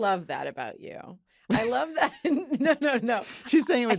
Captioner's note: laughs